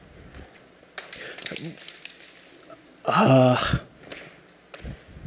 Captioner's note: More rocks hitting Leo